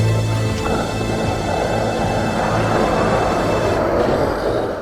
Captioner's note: riverbeast roars